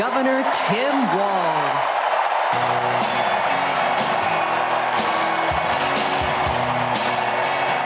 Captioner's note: crowd chanting